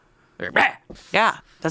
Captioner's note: yells